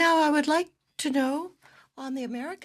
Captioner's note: speaking French